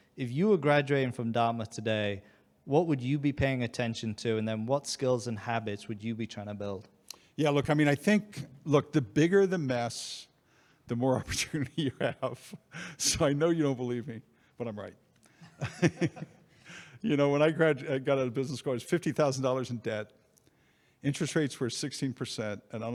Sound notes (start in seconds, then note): 15.3 chuckles